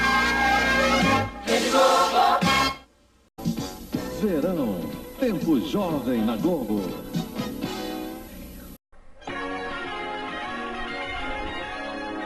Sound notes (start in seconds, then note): 3.9 male announcer speaking Portuguese; 9.2 retro music resuming